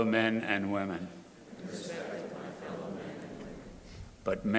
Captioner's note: crowd repeating